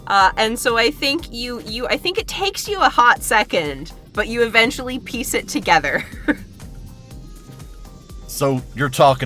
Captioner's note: chuckles